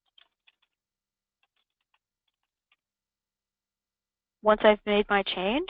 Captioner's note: computer keyboard keys tapping